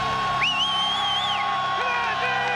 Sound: whistles

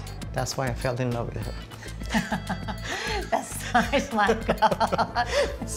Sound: laughs

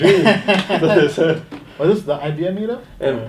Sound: laughing

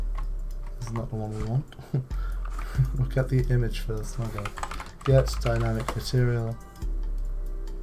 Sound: chuckles

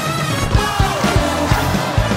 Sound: crowd exclaiming

